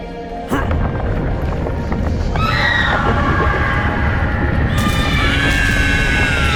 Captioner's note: uplifting celestial music; Samson grunts; crowd screaming; Samson screaming; stone crumbling